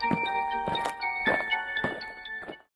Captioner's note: eerie music; allien marching